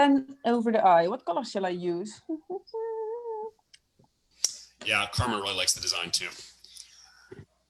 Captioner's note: hums